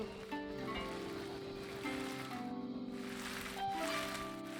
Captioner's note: audience applauding